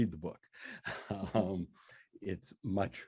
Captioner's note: laughs